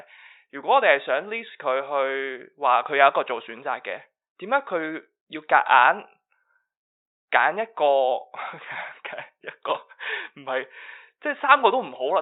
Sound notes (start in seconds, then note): 8.4 laughs